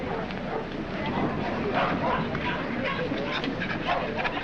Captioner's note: dogs barking